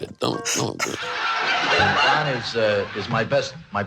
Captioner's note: laughing